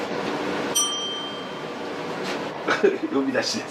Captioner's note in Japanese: 呼び鈴の音